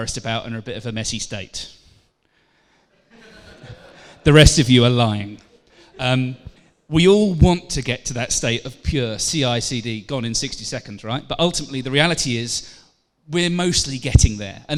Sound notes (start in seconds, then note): 3.0 laughter; 5.8 laughter